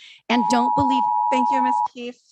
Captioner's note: timer beeping